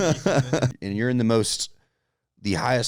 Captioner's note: laughs